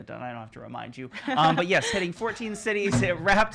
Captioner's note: laughing